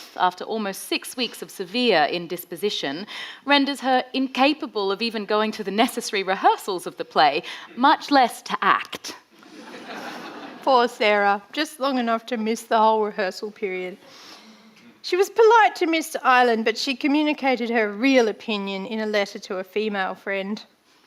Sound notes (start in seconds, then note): 9.4 audience laughing